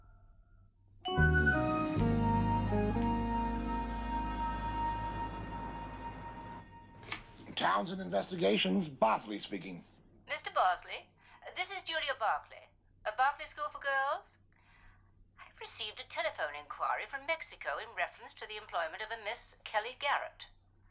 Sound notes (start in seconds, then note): 3.1 phone rings